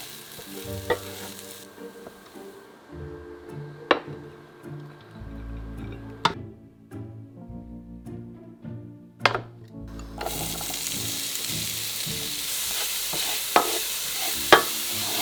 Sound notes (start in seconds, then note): 9.8 sizzling